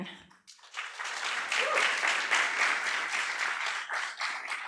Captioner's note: audience applauds